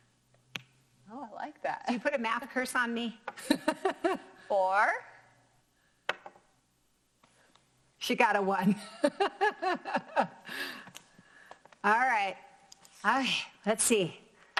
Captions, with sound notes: - Oh, I like that. You put a math curse on me. (laughs) - Four. - She got a one (laughs) All right, let's see.